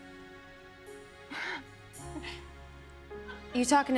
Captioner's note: laughs